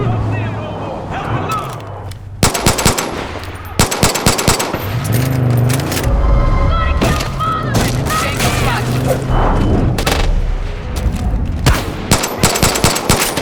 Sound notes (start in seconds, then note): 2.4 gunshots; 5.2 whooshing; 9.5 gunshots